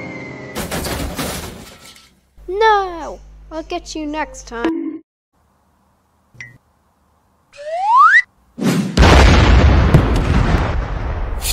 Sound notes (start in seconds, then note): 0.6 crash!; 4.5 bonk; 8.5 breakdancing noises